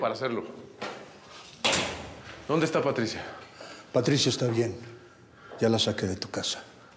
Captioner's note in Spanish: ruidos al cerrar reja